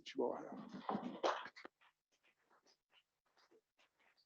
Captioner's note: applause